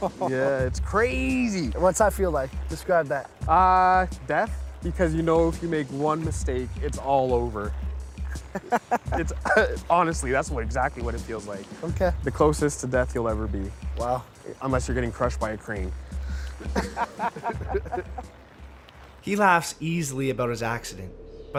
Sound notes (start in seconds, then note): 8.2 laughing; 16.3 both laughing